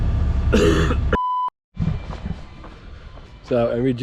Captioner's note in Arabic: يسعل